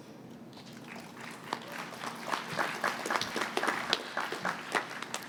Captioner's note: applause